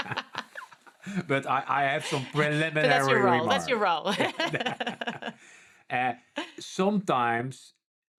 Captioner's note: laughing